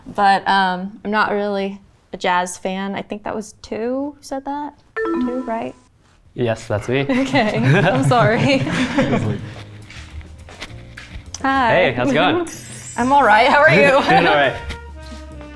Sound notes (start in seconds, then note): 5.0 symbol beeps; 7.1 all laughing